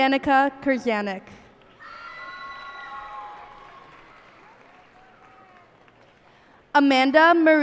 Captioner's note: cheers and applause